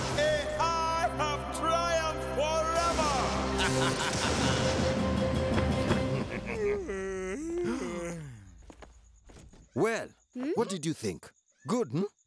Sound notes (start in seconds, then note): 3.5 laughing; 6.0 snickering; 6.6 yawning; 6.6 gasping